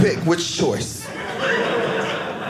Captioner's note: audience laughing